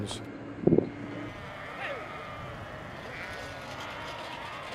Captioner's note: sheep bleating